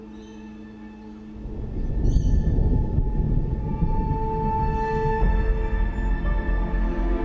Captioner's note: ominous music; thunder